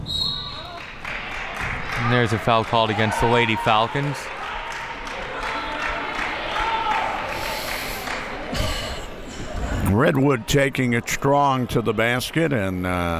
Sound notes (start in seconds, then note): 4.0 clapping